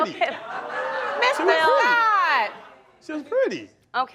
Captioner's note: crowd laughing